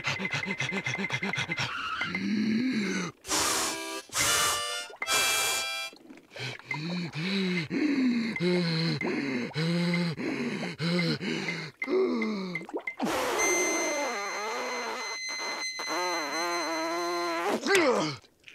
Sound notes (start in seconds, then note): 0.0 panting; 3.3 note plays; 6.3 gasping for air; 9.7 panting; 11.7 inhaling weakly; 17.2 groans